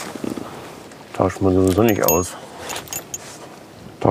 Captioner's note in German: Klirren